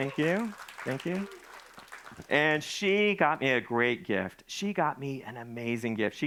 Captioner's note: audience applauding